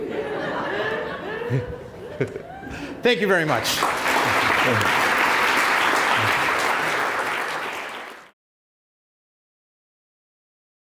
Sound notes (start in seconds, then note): 0.1 laughs; 6.6 applause